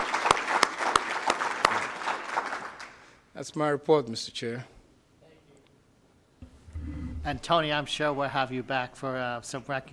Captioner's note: applause